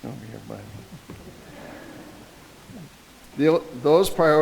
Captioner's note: audience laughing